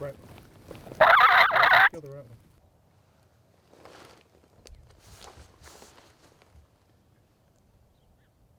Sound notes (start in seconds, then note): 0.9 turkey cutt